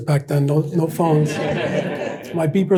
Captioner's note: audience laughs